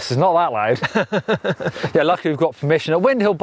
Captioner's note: laughing